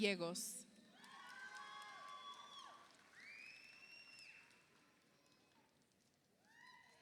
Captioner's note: audience applauds; audience cheers